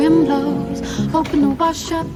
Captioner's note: thumping